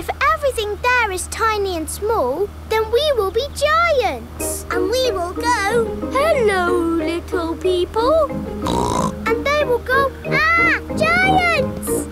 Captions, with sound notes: If everything there is tiny and small, then we will be giants! And we will go, "Hello, little people!" (SNORTS) And they will go, "Arrgh! Giants!"